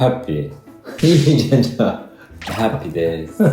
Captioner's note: laughs